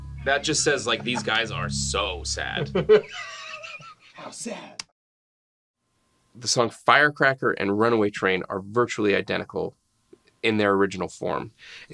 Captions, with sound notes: - That just says like these guys are so sad. (all laughing) - How sad. - The song "Firecracker" and "Runaway Train" are virtually identical in their original form